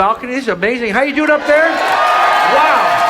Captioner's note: audience cheering